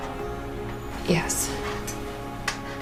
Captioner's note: voiceover